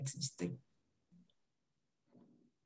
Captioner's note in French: silence